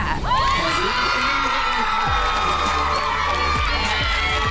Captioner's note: team cheers